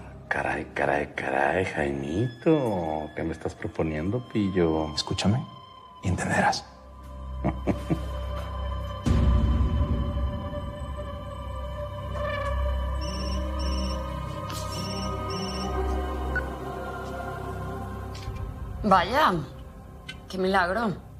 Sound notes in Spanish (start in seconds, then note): 7.3 Risas; 13.0 Suena el celular